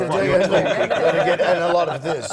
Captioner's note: laugh